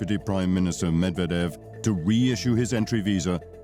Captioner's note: speaking in native language